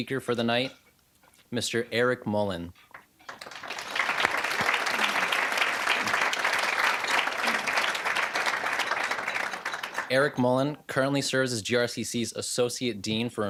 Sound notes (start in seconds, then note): 3.2 applause